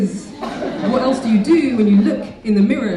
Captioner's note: audience laughing